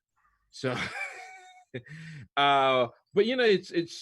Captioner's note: laughs